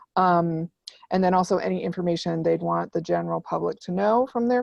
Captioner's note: none